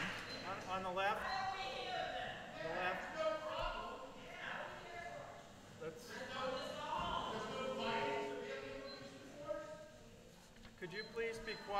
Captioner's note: applause; people shouting from audience